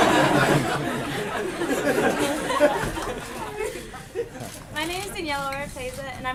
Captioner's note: laughter